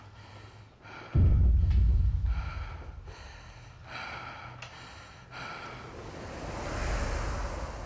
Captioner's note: gasping